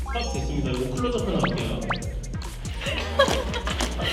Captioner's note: breathing; burst out in laughter as soon as it ended